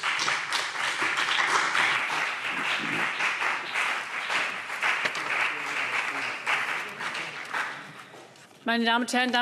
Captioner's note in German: Beifall CDU und BÜNDNIS 90/DIE GRÜNEN